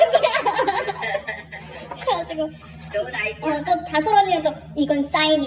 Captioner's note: dad laughing